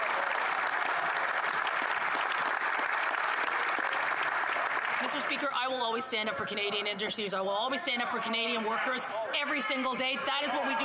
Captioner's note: some Applause